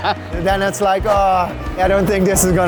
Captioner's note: laughter